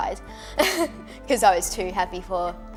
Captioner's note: laughing